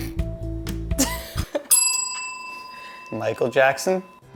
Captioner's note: laughs; bell rings